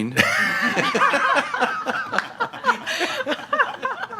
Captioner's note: laughter